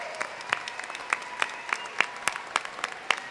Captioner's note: applause and cheering